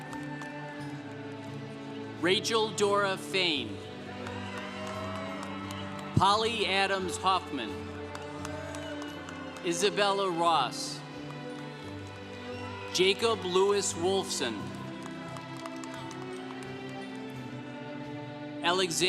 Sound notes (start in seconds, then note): 0.0 congregation cheering; 4.2 congregation cheering; 8.5 congregation cheering; 15.5 congregation applauding